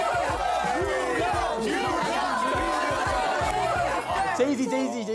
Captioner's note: Everyone shouting "New York" together all of a sudden